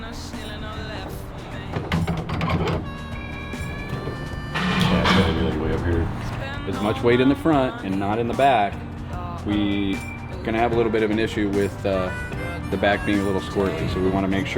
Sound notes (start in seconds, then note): 2.9 dramatic music; 5.9 engine revs